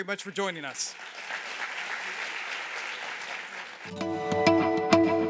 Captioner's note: applause